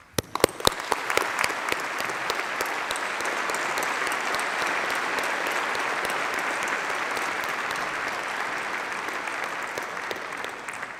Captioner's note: applause